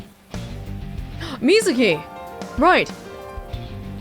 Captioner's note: gasps